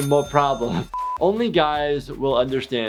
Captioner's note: high pitched beep